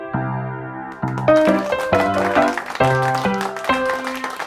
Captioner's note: audience applause